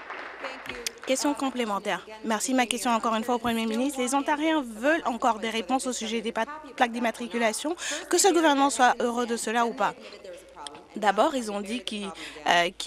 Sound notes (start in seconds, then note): 2.1 applause